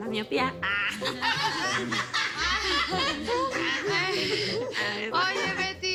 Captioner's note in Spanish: Risas